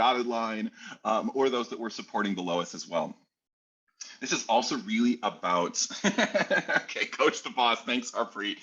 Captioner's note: laughs